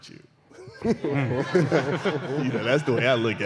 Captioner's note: laughter